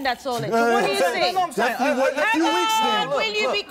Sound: everyone shouting

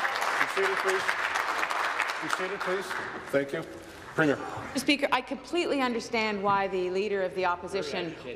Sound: applause

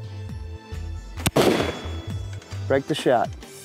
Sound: gun fires

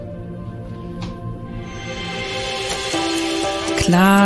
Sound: magical sounds

